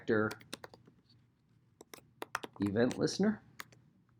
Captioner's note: keyboard clacking